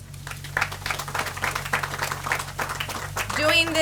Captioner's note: audience applauds